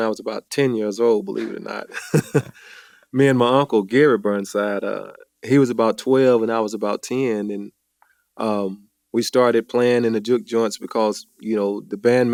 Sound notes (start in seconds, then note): 1.3 chuckles